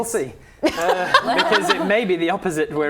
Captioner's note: laughing